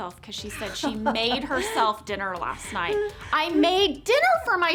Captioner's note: Angela laughing